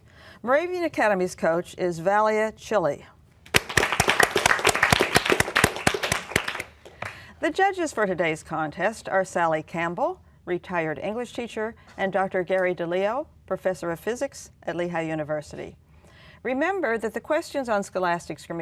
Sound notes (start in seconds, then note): 3.4 applause